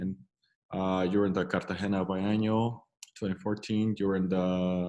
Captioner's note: speaks in foreign language